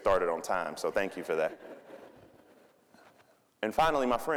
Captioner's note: audience laughing